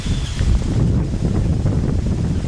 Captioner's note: wind